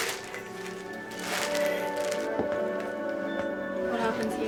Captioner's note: object rustling